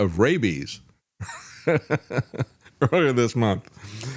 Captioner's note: laughs